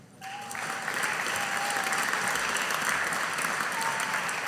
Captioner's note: audience applauding